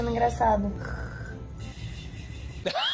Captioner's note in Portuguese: som de ronco; Risos